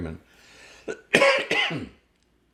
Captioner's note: coughing